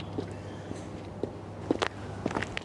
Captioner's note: <i> footsteps approaching</i>